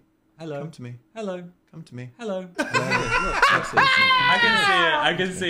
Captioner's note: hosts laugh